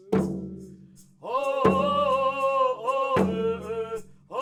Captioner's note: chanting continues; all chanting